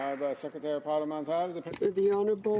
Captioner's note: some Applause